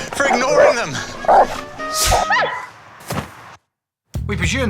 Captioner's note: spits; dog yelps